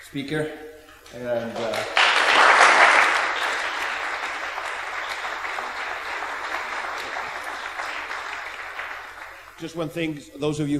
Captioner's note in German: applaus